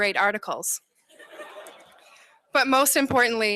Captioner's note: laughter